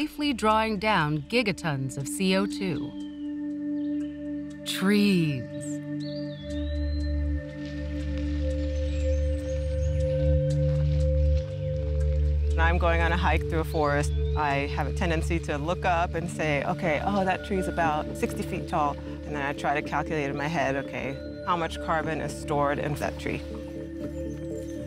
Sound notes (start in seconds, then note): 6.4 birds chirping